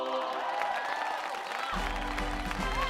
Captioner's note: angelic chorus; cheers and applause